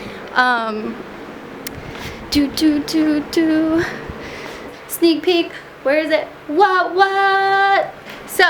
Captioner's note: hums